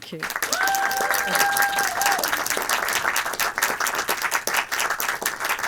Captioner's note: audience clapping